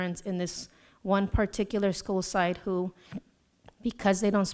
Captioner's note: none